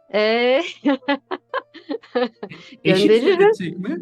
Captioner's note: laugh